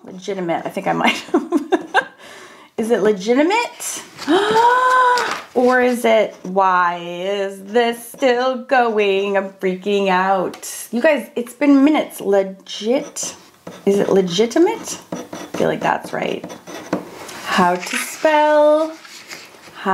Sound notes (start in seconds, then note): 4.2 gasps; 13.6 pen scrapes